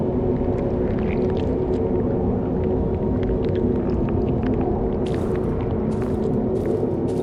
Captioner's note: footsteps pattering; liquid squelching